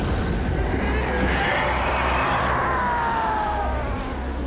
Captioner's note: shrieking